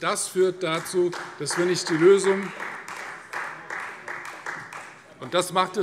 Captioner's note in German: Beifall Freie Demokraten